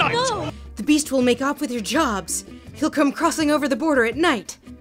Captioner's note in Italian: voce fuori campo